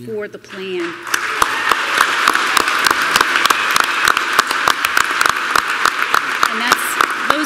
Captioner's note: applause